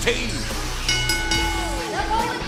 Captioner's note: bell ringing